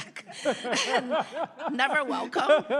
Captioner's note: panelists laugh